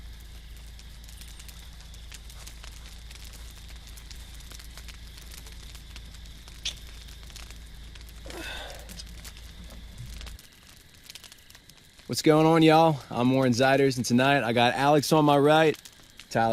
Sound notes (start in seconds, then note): 0.0 fire crackling; 0.0 insects chirping; 6.6 mouth clicks; 8.2 sighs